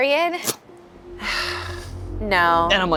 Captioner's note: sighs